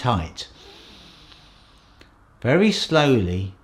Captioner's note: inhales